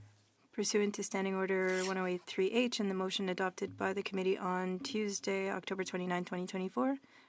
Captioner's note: speaking French